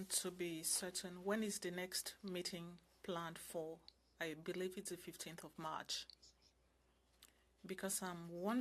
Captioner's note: speaking French